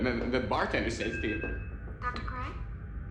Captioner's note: device chimes